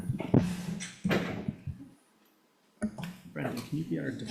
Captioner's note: microphone crackling